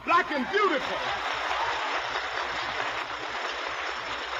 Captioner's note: applause